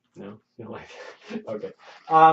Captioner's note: laughs